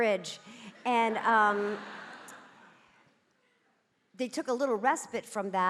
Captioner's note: audience laughing